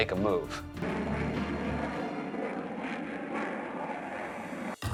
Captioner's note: whooshing